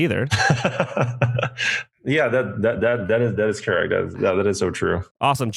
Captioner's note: laughs